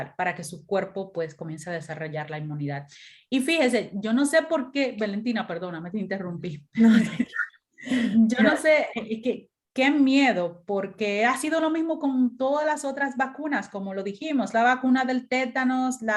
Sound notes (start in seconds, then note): 6.8 laughter